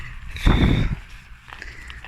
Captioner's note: sigh